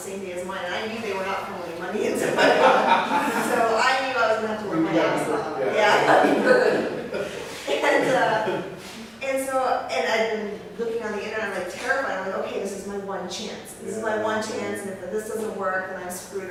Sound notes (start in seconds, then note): 1.9 laughs; 8.6 laughter